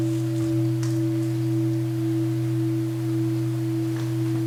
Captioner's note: first sound of the bell